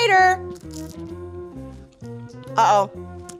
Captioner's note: baklava crunches